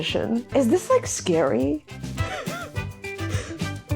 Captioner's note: laughs